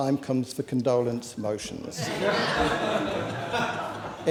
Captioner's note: laughter